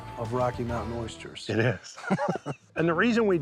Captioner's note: laughing